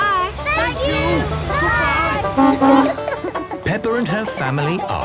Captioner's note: honking